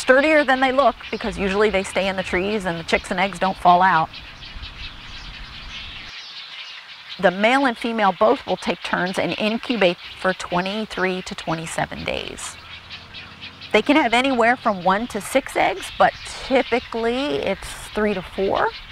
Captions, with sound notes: sturdier than they look because usually they stay in the trees and the chicks and eggs don't fall out. [bird sounds] The male and female both will take turns and incubate for 23 to 27 days. They can have anywhere from one to six eggs but typically it's three to four.